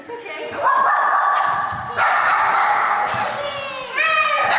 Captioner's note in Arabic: كلاب تنبح; أطفال يصيحون